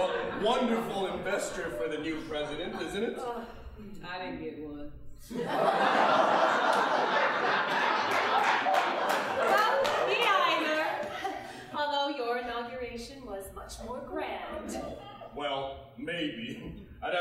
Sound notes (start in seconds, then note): 5.3 audience laughing